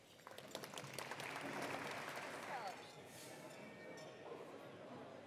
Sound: attendees applauding

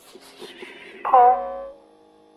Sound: digital bell

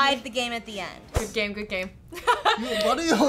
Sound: laughs

